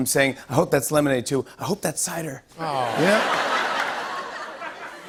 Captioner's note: laughter